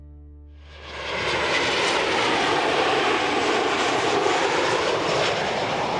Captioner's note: airplane passing overhead